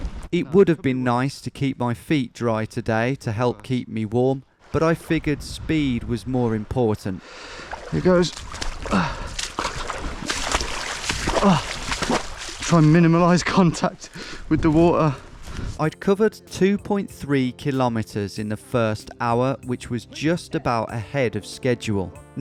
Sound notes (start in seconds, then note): 7.4 shoes splashing; 8.8 groaning